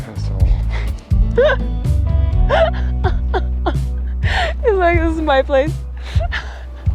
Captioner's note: laughing